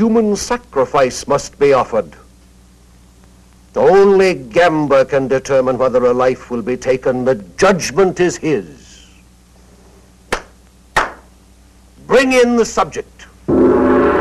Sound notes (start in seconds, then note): 10.9 claps